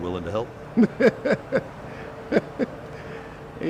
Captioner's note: laughs